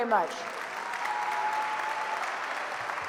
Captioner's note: applause